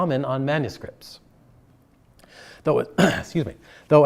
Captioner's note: clears throat